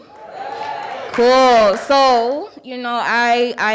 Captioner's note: audience cheering